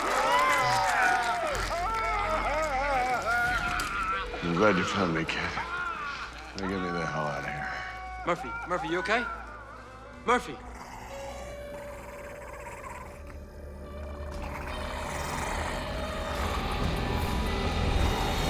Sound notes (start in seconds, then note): 2.3 screams; 10.8 snarling; 15.5 music intensifies